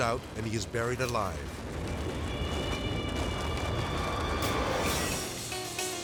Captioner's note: snow pounding; dramatic music; chaotic dramatic music